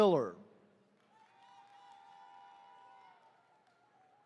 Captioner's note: attendees cheering